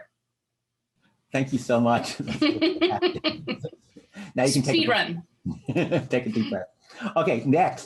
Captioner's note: laughter